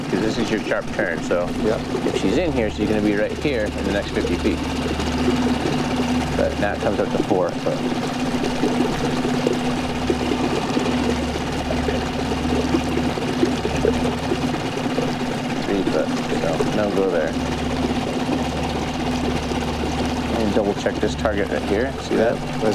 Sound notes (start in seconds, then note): 9.1 boat motor rumbling; 9.1 water sloshing